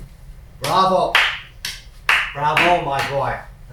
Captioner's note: clapping